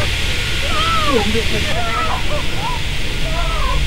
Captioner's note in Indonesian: menangis